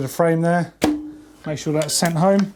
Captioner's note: axle pops